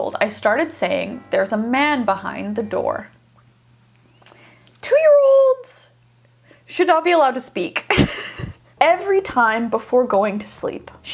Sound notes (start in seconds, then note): 7.8 laughs